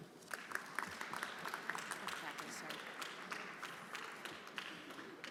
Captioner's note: everyone applauding